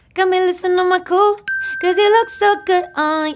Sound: bell dings

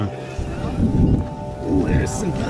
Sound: thunder crashes

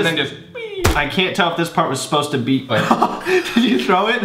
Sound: laughs

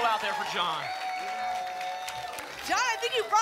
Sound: applause and cheering cont

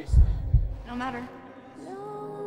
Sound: heart beating

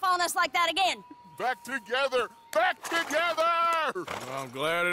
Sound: clapping

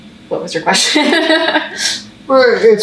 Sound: laughs

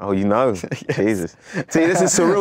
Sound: laughs

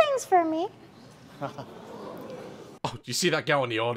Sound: audience- woah!

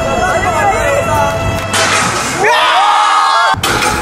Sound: clang!

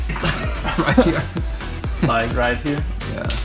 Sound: laughs

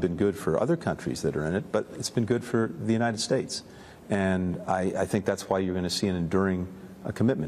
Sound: HABLA EN INGLéS

